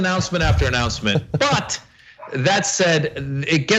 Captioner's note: laugh